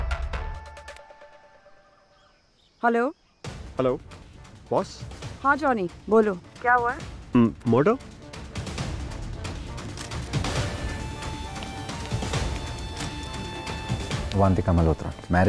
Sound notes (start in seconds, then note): 6.6 Sakshi on phone